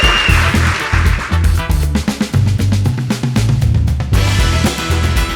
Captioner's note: applause and music